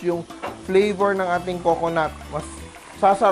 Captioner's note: sizzle